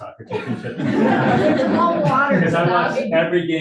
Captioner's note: audience laughing